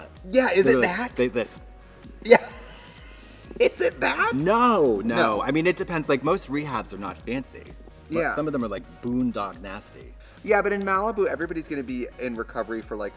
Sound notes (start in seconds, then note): 2.2 Trixie laughs